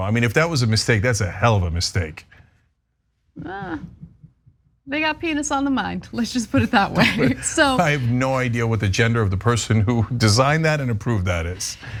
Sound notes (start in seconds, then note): 6.6 laugh